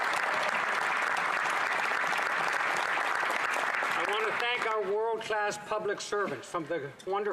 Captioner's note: applause